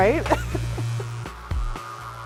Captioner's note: laugh